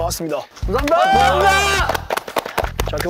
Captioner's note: applause for the hardworking returning students